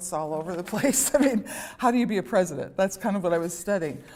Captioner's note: laughter